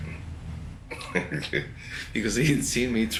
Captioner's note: laughter